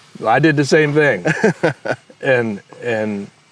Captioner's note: laughs